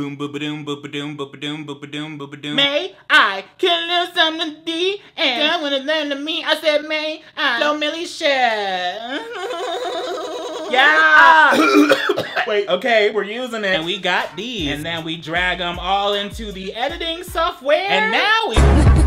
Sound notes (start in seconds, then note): 0.0 vocalizes; 11.8 coughs